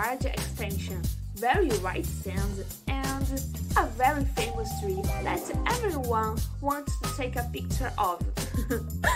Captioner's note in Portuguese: risos